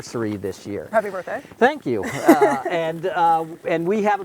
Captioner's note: laughs